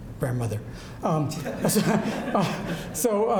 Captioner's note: audience laughs